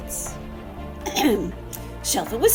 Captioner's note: clears throat